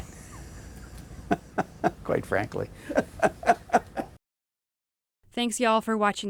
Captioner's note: chuckling